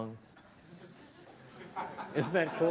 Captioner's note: laughter